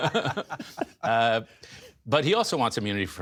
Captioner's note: laughter